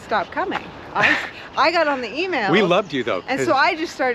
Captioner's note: laughs